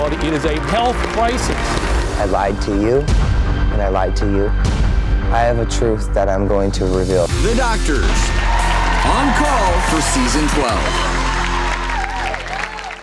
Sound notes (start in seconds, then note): 0.0 applause; 7.4 applause